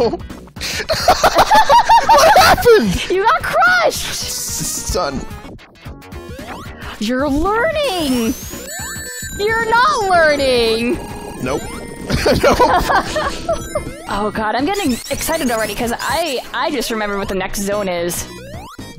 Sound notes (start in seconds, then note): 0.8 chuckles; 0.8 laughs; 7.4 gasp; 12.0 laughs